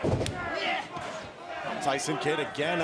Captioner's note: fans chanting